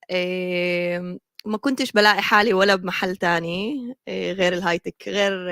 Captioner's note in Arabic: لغة أجنبية